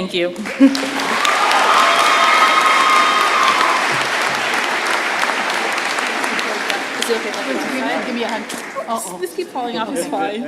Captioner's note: applause